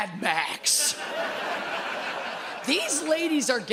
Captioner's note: audience laughs